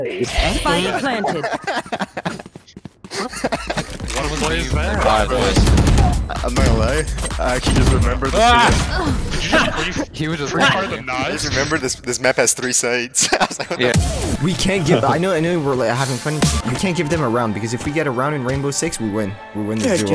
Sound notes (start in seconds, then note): 0.1 laughing; 1.5 footsteps tapping; 5.0 guns firing; 7.3 players grunting; 13.1 laughs